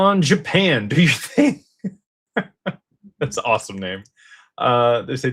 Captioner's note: laughter